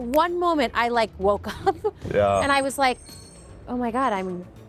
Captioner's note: laughing